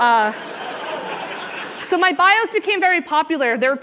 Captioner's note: laughter